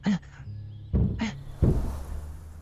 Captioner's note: knock, knock